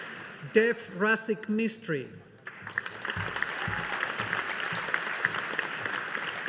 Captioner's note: audience applauding